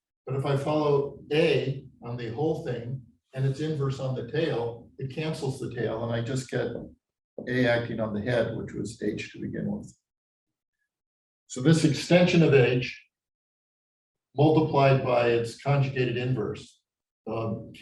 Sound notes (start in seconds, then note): none